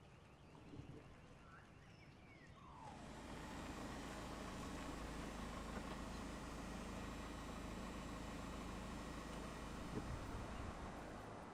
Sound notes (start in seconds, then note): 3.4 car idling